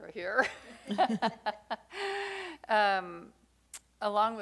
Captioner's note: laughing